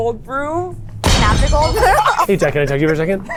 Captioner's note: laughing